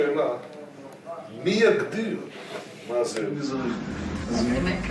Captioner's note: Hebrew spoken audio